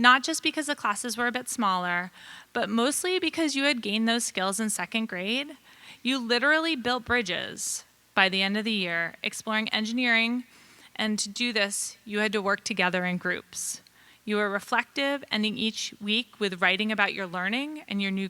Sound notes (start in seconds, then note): none